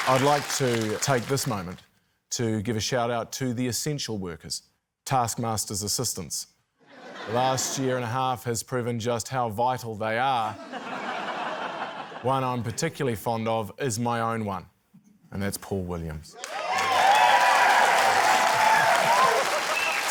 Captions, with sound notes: I'd like to take this moment to give a shout-out to the essential workers, Taskmasters' assistants. (LAUGHTER) The last year and a half has proven just how vital they are. (LAUGHTER) One I'm particularly fond of is my own one, and that's Paul Williams. (CHEERING, APPLAUSE)